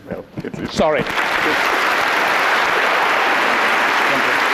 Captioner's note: applause